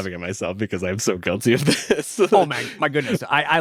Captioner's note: laughs